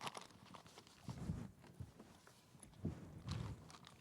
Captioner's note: object rustling